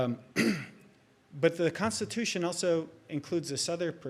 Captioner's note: clears throat